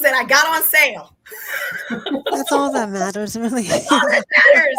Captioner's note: laughter